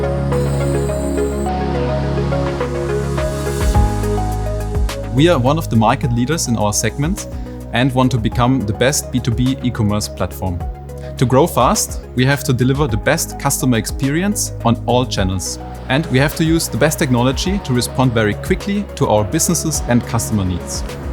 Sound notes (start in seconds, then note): 0.1 machinery whizzing